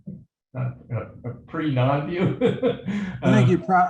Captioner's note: laughs